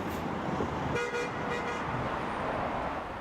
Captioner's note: honking horn